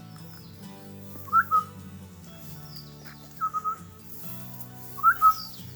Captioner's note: chirping